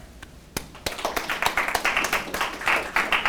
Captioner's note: applause